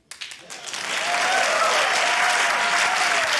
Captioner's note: cheering, applause